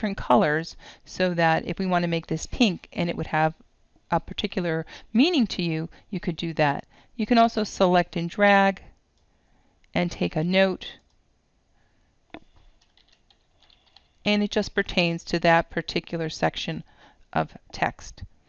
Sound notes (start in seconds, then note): 12.4 typing note